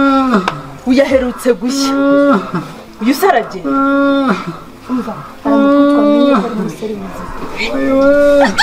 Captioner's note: chuckles